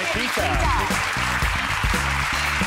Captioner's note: audience applauding; funky music